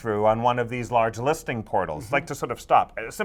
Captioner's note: none